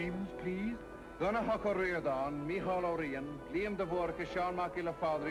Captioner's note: reciting names in thick Gaelic accent